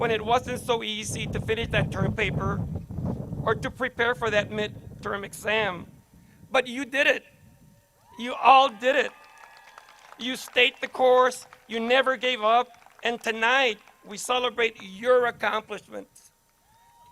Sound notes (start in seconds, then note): 8.0 crowd cheers